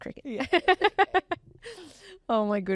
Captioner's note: laughs